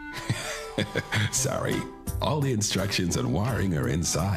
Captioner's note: chuckles